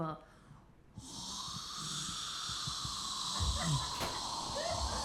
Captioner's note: air whooshing